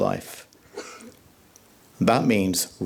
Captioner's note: audience coughs